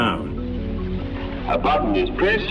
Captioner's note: electronic music intensifies; radio fuzzing